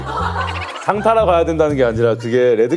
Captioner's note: hahaha